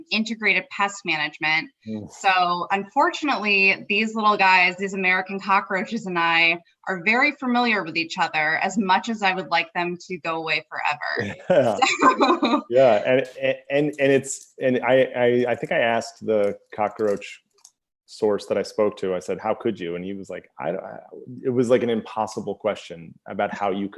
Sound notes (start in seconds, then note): 11.1 laughing; 11.2 laughter